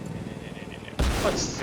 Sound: crash sound

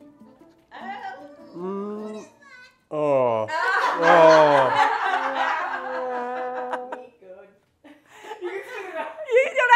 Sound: laughter

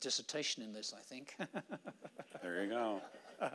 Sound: laughing

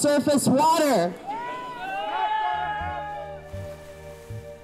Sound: crowd yelling

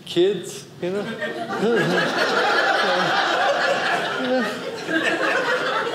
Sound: audience laughing

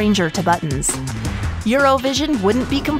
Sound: air whooshing

